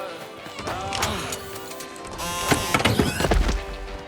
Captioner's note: robot whirring